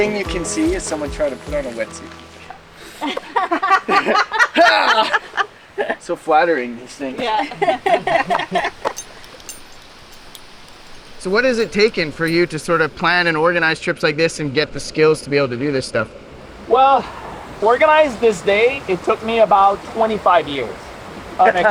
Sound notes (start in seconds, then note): 0.0 laughing; 2.8 both women laugh; 4.5 groans; 7.1 both women laugh